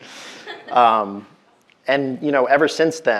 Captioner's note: audience member laughing